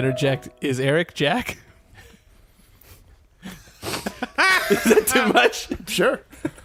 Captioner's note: laughs